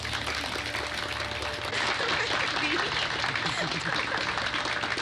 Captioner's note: laughing